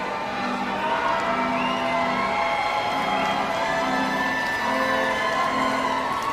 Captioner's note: audience cheering and whistling